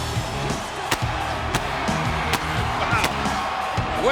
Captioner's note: energetic music; pyrotechnics blasting